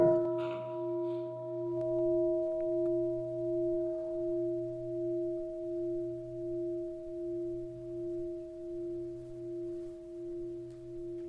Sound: bell sounds

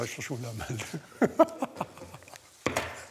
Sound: hearty laughter

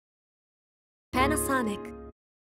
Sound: computerized Voice

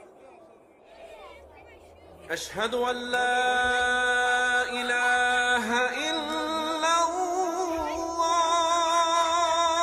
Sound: children laughing with Arabic prayer in the background

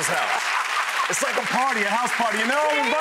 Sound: laughs

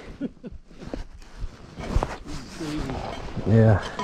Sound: chuckles

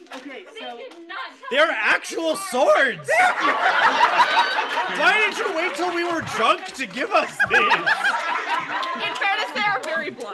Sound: laughs

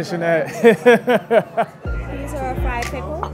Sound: laughing

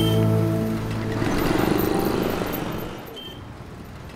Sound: traffic sound

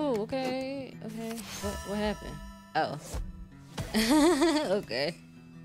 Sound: laughs

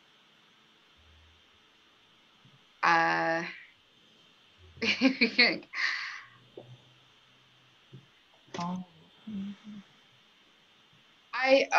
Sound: laughter

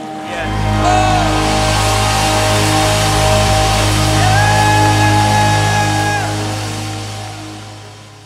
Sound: audience cheering

